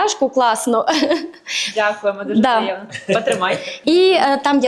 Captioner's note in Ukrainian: сміх